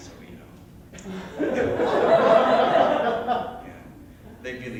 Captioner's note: laughter